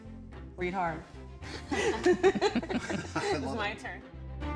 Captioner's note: everyone laughing; bright music